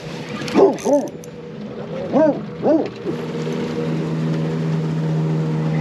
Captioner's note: dog barking; boat engine running